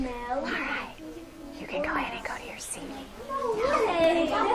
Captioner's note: whispers